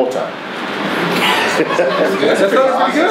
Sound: everyone laughs

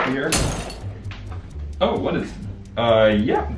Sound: tools clattering

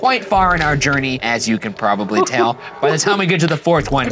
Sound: giggling

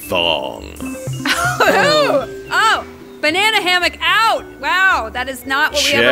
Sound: laughs

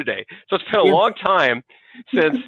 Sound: chuckles

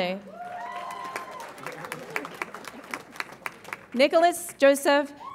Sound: audience applauds and cheers

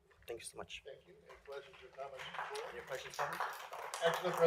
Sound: applause

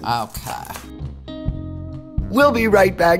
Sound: cutting

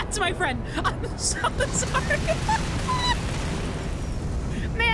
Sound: laughing

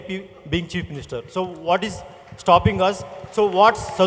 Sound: applause

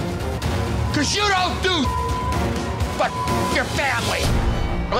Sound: beep

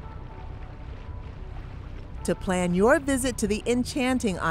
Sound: water lapping serenely

